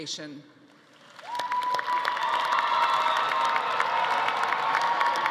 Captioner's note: audience cheering